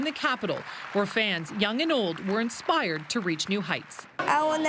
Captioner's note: applause